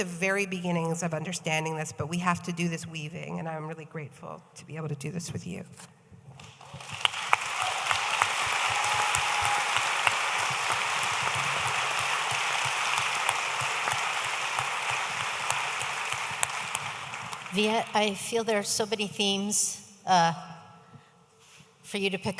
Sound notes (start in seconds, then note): 6.4 audience applauding